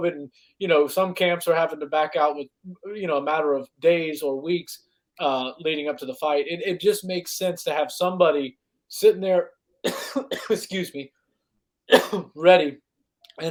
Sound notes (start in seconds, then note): 9.8 coughs